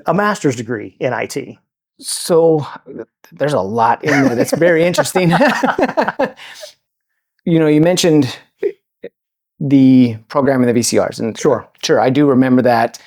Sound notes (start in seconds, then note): 4.0 both laughing